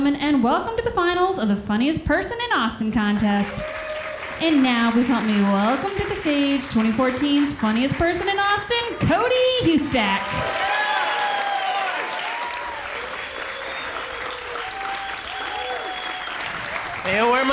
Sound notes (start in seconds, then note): 4.0 crowd applauds; 10.5 crowd applauds